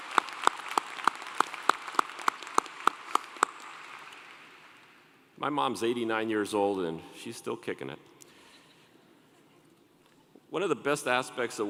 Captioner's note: applause